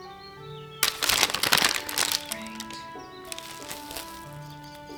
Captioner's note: paper crinkles